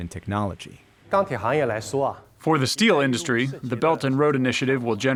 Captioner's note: through translator